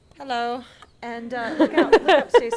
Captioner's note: laughing